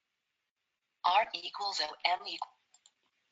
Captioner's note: automated Voice